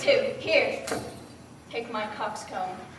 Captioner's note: jangling